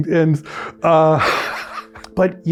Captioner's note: chuckles